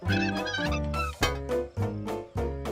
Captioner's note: nail creaking; clanks